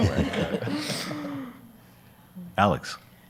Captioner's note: everyone laughs